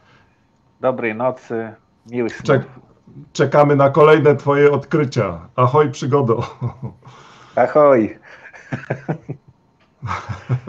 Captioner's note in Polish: śmiech